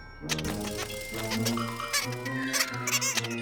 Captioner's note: squeaking